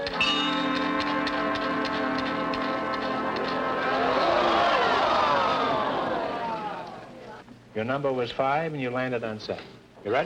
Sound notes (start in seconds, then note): 0.0 bell rings; 1.4 wheel clicking; 3.9 crowd wooing; 3.9 wheel clicking; 3.9 crowd wooing